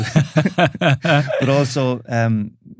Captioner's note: laughing